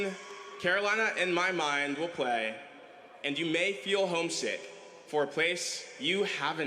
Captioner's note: cheering